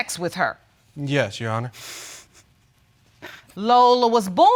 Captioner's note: chuckles